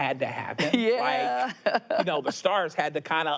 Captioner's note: laughs